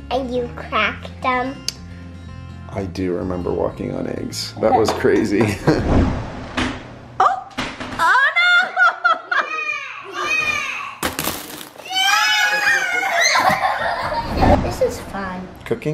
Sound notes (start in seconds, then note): 5.5 chuckles; 8.0 laughter; 11.8 squeals and cheering